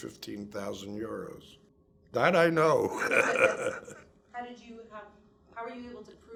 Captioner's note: laughs